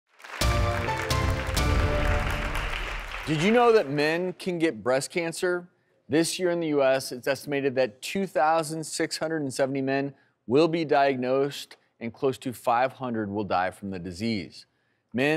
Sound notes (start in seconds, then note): 0.1 clapping; 0.3 upbeat music